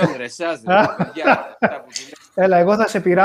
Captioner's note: Γέλια